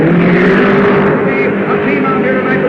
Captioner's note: cars revving